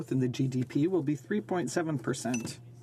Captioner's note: speaking french